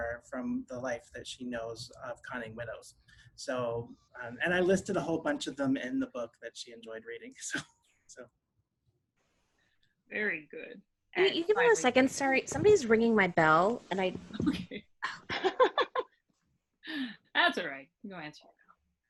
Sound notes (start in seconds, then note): 15.4 laughing